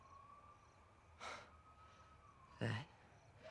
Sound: EXHALlNG

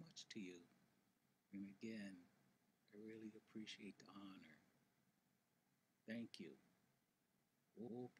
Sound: speaks native language

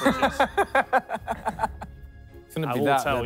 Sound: laughs

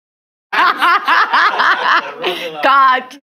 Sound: laughs

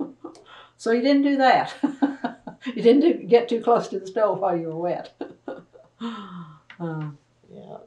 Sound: laughter

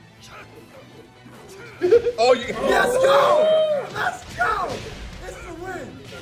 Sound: laugh

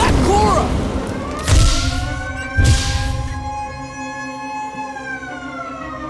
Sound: alarm blaring

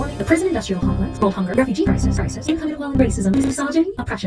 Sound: glitch

